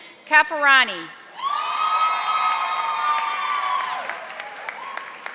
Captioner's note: audience applauding